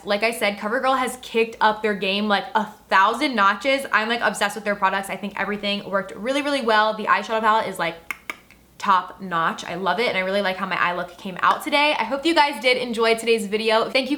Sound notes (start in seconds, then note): 8.0 clicks tongue